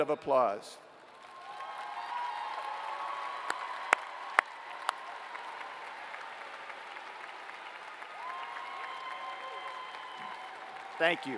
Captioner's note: applause